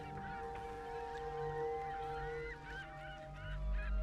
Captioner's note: seagulls mewing